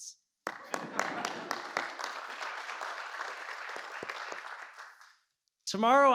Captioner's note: applause